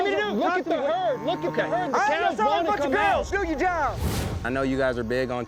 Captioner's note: cowboys all arguing